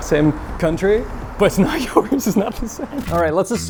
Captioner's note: laughs